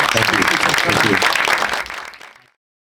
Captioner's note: audience applauding